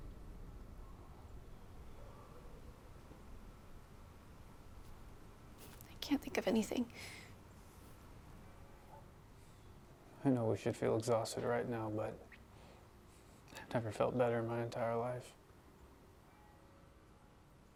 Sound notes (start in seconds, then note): none